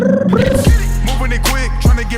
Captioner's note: imitates phone ringing